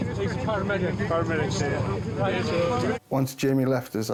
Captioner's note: people chattering